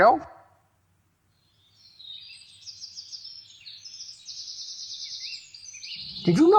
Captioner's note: birds chirping